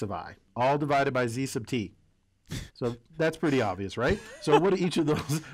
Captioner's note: laugh